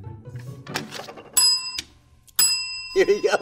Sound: bell ringing

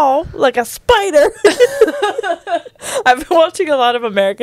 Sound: panel laughing

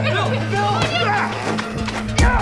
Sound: grunts; pow

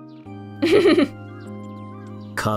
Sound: chuckles

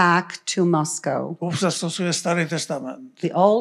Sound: foreign language

